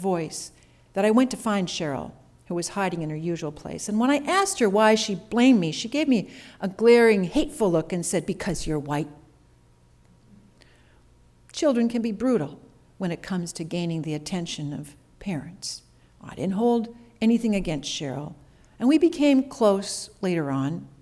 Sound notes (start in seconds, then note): none